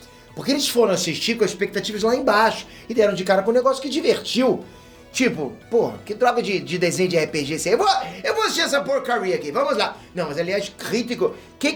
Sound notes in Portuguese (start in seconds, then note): 5.7 com voz de crítico